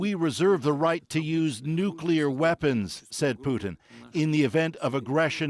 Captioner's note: speaking alternate language